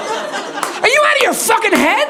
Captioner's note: audience laughing